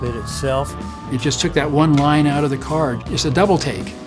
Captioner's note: pat